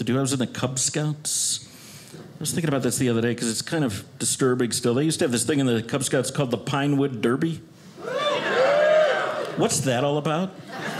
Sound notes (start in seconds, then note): 8.0 audience cheers